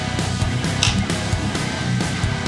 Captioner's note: click